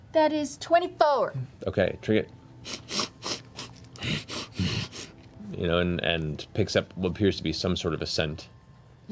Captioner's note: sniffing, grunting